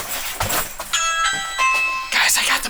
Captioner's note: doorbell chime